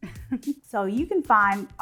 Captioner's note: laughs